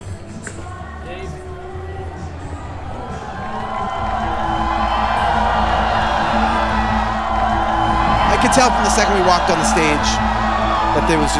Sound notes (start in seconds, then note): 0.0 crowd Cheering